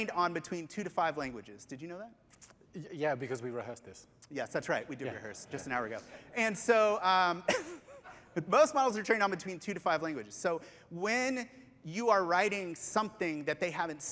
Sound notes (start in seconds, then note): 7.5 laughter